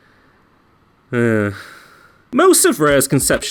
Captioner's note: frustrated sigh